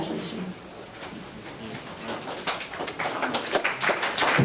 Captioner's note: members applauding